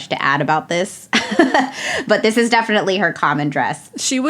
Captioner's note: laughs